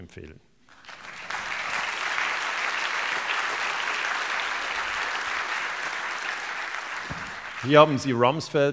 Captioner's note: applause